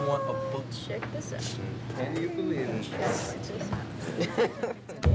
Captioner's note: laughs